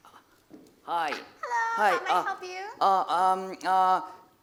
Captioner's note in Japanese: 英語